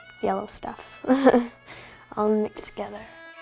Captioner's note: chuckles